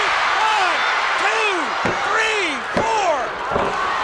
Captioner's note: crowd cheers